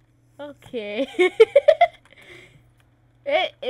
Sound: giggles

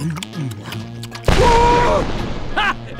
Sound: screaming

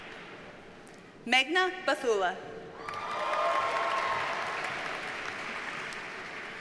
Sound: audience cheers and applauds

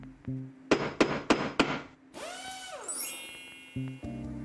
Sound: some hammering, a power wrench, and a pinch of magic

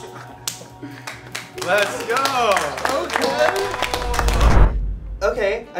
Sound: guys clapping; clapping

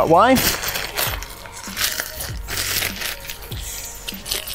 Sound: bag rustling

